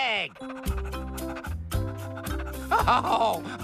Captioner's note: panting